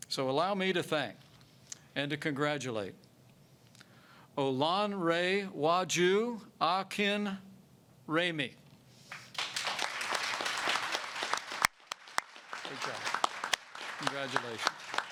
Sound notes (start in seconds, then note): 9.0 applause